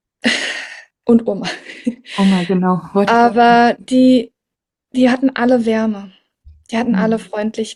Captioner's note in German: gelächter